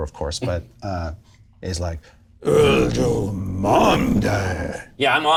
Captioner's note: speaks fantasy language